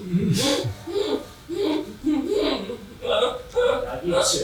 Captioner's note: gasping